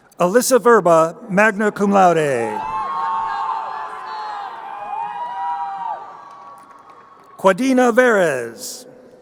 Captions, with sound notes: Alyssa Verba, magna cum laude. (crowd cheering) Quadina Veres.